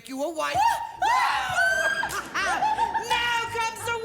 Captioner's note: screaming